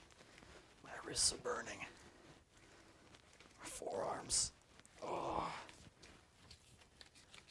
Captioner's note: groans